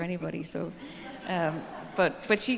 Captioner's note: audience laughing